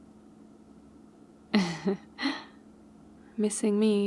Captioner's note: laughs